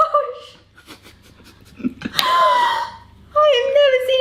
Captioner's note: laughing